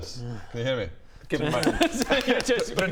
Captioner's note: slapslapslap